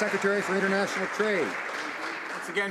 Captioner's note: some Applause